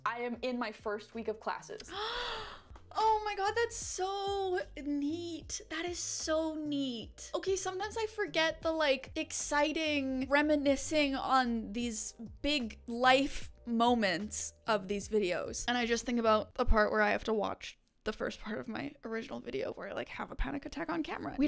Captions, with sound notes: I am in my first week of classes. - (gasps) Oh my God, that's so neat. That is so neat. Okay, sometimes I forget the like exciting reminiscing on these big life moments of these videos. And I just think about the part where I have to watch the first part of my original video where I like have a panic attack on camera.